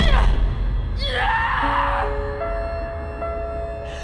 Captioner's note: Belle screams